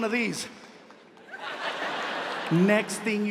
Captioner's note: audience laughs